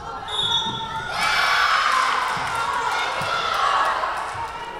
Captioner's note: whistle blowing